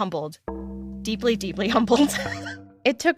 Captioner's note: chuckles